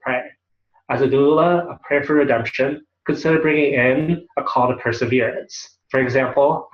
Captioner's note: Hebrew